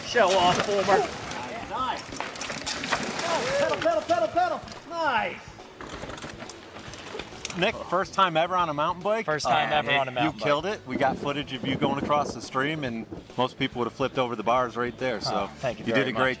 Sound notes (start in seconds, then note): 1.9 shouting